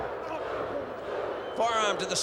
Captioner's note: crowd chanting "Luke"